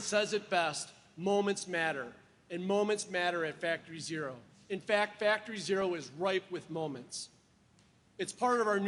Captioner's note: applause